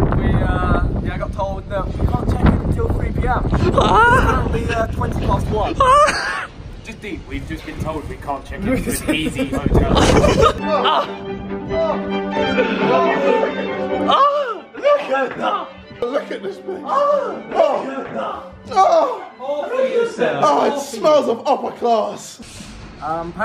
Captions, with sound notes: - Yeah, we, yeah I got told, "You can't check-in until 3:00 PM." It's currently 20 past 1:00. (chuckling) - Just think, we've just been told we can't check-in to Easy Hotel. (laughing) - Oh. Oh, look at that. - Look at this place. Oh. Oh, it smells of upper class.